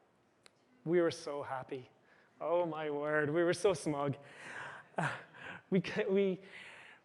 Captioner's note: chuckles